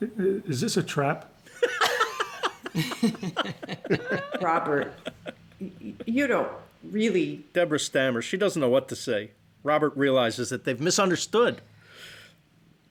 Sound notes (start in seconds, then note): 1.4 laughter